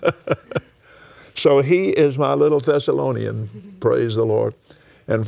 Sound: laughs

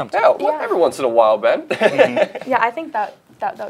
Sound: laughs

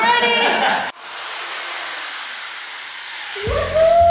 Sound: power tool buzzing

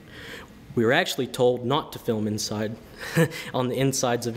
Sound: laughs

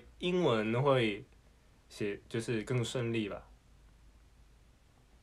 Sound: in English

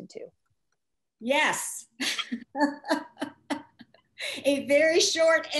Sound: laughs

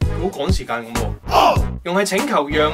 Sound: Cantonese

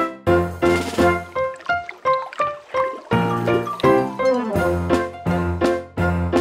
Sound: water burbles; bright music

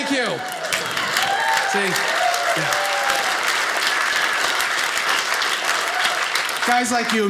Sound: audience cheers

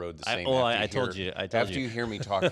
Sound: laughs

